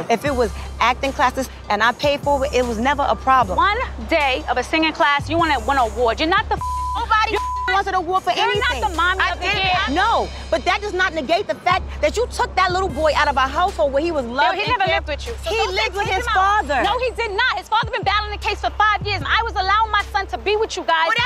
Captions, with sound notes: If it was acting classes and I paid for it, it was never a problem. - One day of a singing class, you wanna win awards. You're not the (beep)- - Nobody (beep) wins an award for anything. - You're not the mom of the year. - I know, but that does negate the fact that you took that little boy out of a household where we was loved and cared- - No, he never lived with you. - He lived with his father! - No, he did not! His father been battling a case for five years, and I was allowing my son to be with you guys,